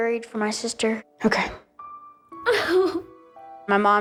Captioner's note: sobbing